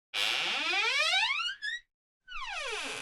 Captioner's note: door Opens; door Closes